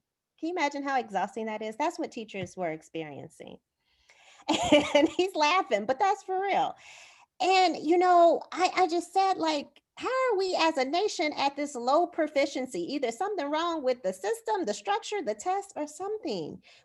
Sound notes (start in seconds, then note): 4.4 laughter